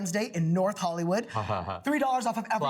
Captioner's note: laughs